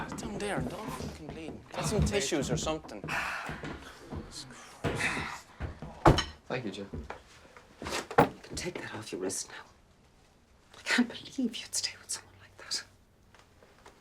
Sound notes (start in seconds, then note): 4.1 cabinet door opens